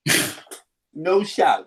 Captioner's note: chuckles